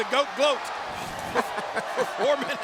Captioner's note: commentators laughing